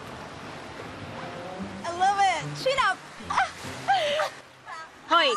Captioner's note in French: chuckles